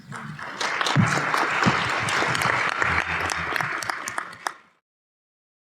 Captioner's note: applause